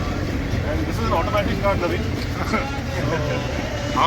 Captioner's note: laugh